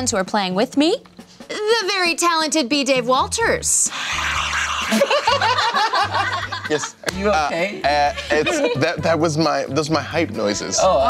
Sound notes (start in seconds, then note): 3.9 mimicking crowd cheering; 5.7 laughing